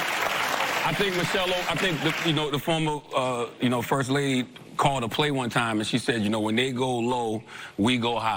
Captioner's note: applause